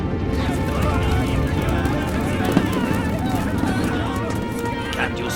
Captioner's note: soldiers shouting